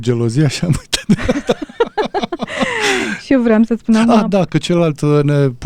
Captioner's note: laughter